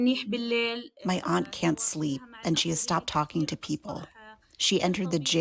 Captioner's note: through translator